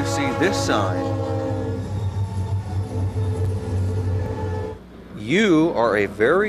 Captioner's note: train hoots and whirs